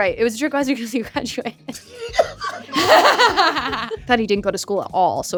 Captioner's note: laughs